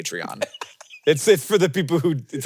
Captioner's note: Jason laughing